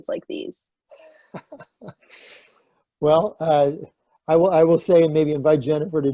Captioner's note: laughs